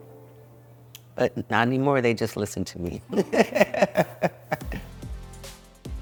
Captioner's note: laughs; upbeat music